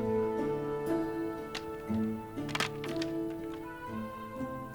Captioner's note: sticks clack; somber music continues